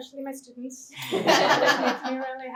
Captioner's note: laughter